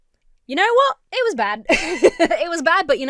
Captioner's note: Emma laughs